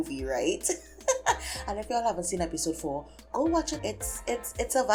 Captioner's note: silly laughing